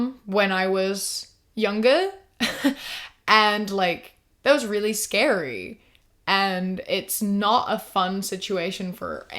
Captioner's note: chuckles